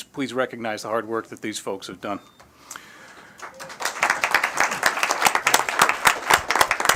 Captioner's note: applause